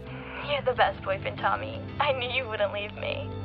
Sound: voice On Phone

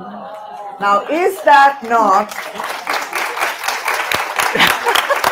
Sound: audience applauding

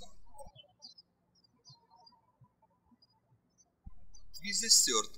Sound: birds chirping

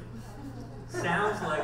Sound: audience laughs

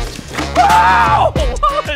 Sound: yells

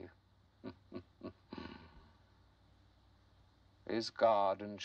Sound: chuckIing

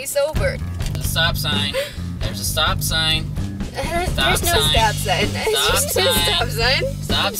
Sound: laughing

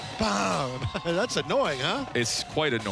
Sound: chuckles

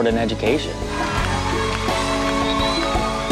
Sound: cheers and applause

